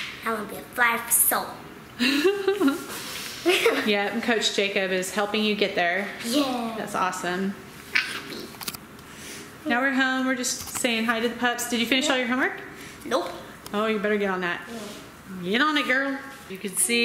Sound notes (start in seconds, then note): 3.4 laughs